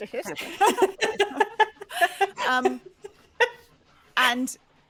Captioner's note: laughing